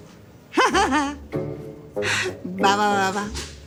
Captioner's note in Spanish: Risas